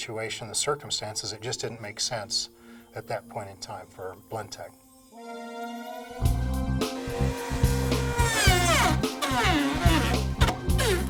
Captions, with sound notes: but based on the business situation, the circumstances, it just didn't make sense at that point in time for Blendtec. (upbeat music) (blender grinding)